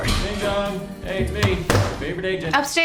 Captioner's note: front door opens; slams laptop shut